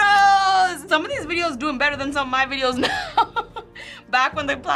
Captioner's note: laughs